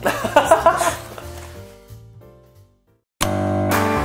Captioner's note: laughs